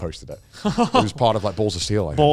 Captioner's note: laughing